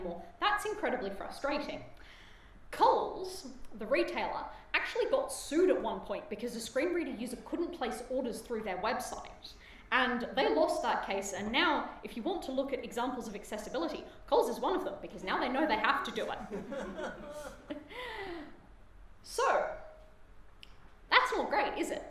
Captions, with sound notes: that's incredibly frustrating. Coles, the retailer, actually got sued at one point because a screen reader user couldn't place orders through their website and they lost that case and now if you want to look at examples of accessibility Coles is one of them because now they know they have to do it. [audience laughter] [humoured sigh] So, that's not great, is it? Oops.